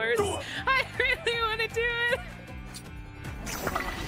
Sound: laughing

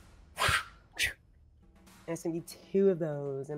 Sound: mimics whoosh sound effect

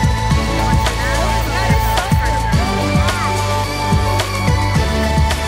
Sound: children chattering

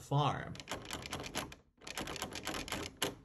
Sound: door handle jiggling

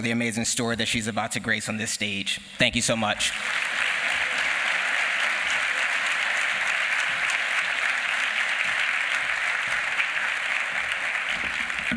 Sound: applause

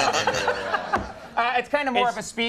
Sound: Conan and audience laugh

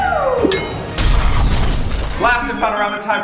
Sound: metal clashing; kaboom

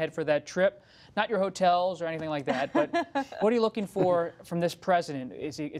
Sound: laughter

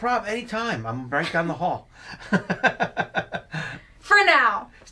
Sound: laughs

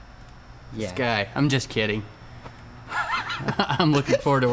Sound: nervous laughter

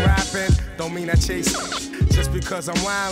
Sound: rapid beeps

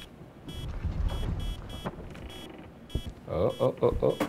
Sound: device beeping

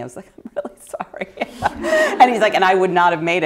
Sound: laughter

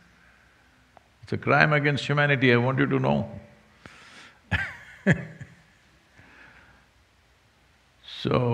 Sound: laughs

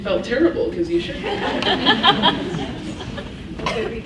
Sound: laughs

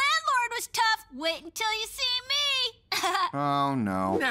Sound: laughs

